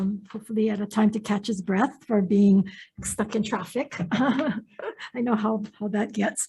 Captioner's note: laughs